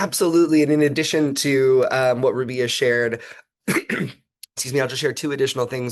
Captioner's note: cough